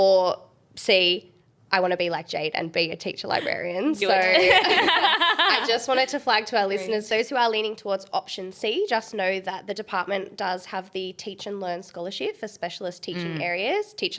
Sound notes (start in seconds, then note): 4.1 group laughing